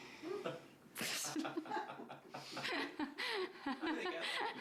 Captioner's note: laughter